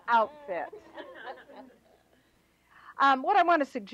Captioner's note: laughter